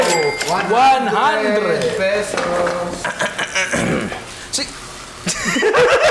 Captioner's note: mimics cough; laughter